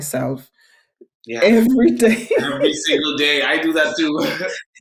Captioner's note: laughing